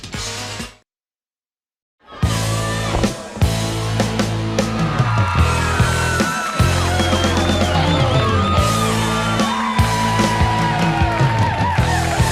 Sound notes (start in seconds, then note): 2.0 crowd cheering